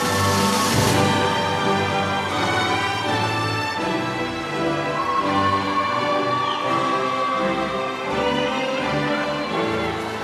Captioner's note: applause